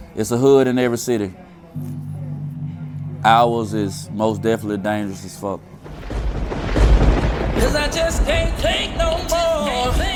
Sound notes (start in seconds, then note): 5.8 thunder crashing; 6.2 somber music